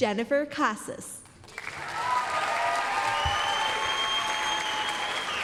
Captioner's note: applause, cheering